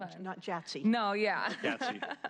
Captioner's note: laughter